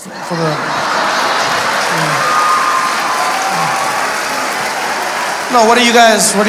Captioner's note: audience laughing